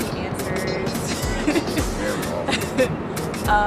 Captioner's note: laughs; sighs